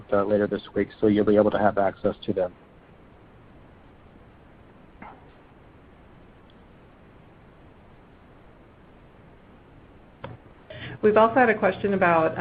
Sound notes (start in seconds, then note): 3.3 silence